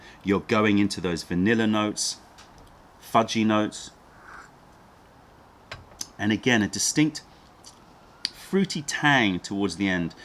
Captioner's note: sips tea